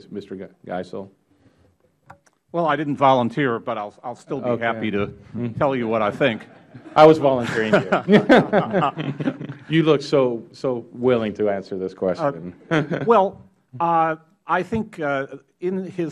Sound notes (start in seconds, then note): 7.7 laughter